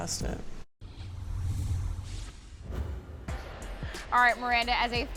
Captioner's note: scene whooshing